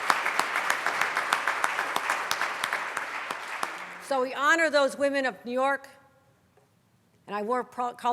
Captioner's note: applause